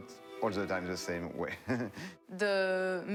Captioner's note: chuckling